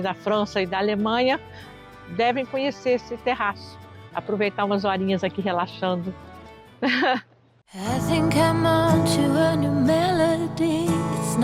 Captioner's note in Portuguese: risos